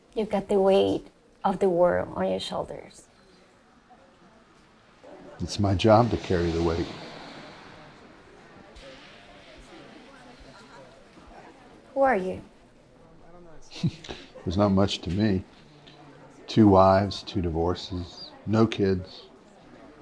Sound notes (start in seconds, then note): 13.7 chuckles